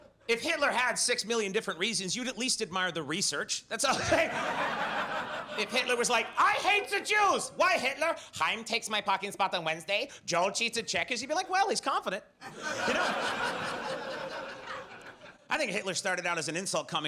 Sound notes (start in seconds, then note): 3.8 laughs; 3.9 audience laughs; 12.4 audience laughs